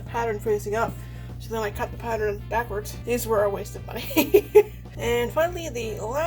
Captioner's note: laughs